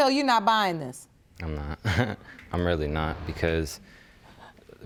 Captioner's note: chuckles